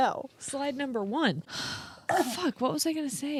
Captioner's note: sighs; coughs